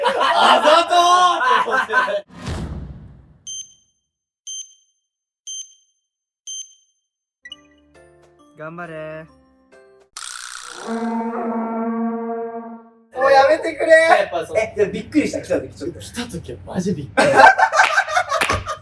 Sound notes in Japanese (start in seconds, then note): 0.0 笑い声; 10.8 効果音：ウオーン; 17.1 爆笑する声